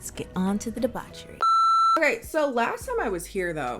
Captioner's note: loud beep